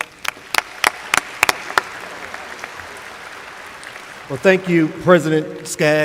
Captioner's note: applause